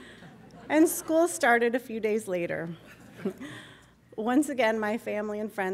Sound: laughter

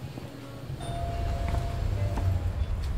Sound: doorbell chimes

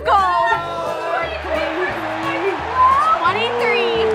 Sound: applause

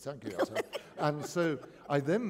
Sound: laughter

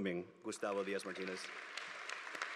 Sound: applause

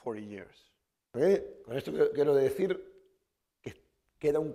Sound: speaking spanish

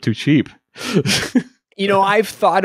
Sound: laughing

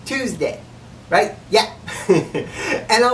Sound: laughs

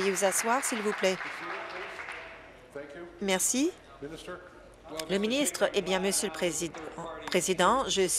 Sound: applause

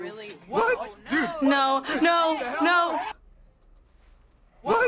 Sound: gasps

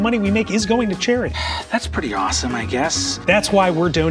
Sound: sighs

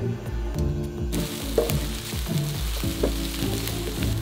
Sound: garlic sizzling

